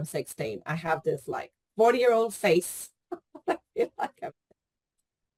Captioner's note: laughs